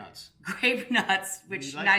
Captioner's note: laughing